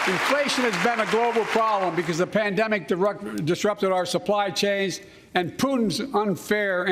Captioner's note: cheers and applause